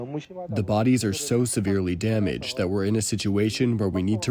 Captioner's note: through translator